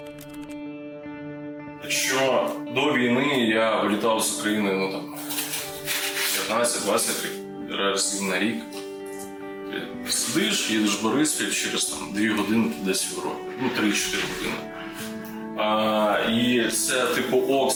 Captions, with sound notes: [in Ukrainian] Before the war, I flew out of Ukraine, say, 15–20 times a year. You sit down, go to Boryspil, and in two hours, you're somewhere in Europe. Well, three or four hours... And it's like, okay.